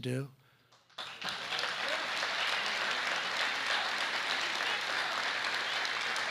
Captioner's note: applause